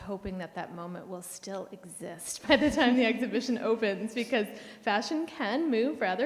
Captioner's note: chuckles